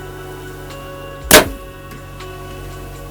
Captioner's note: sound of bowshot